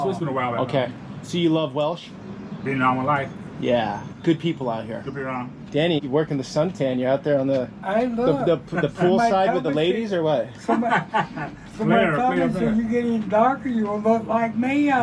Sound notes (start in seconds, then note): 10.5 laughing